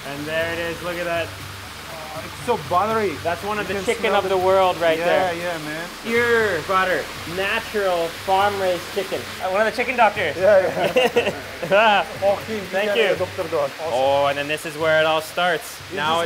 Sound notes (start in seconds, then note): 10.5 laughing